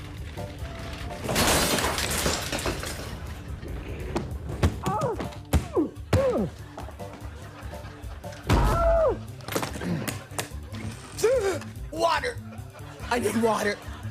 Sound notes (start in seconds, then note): 4.4 muffled groaning; 9.8 gasps